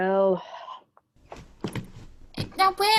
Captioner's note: footsteps fading